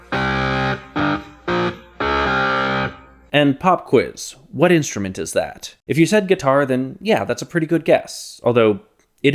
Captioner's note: bang